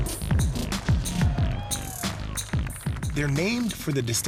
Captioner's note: hip-hop music; cheering